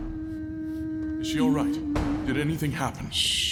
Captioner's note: Shan hums. A door bursts open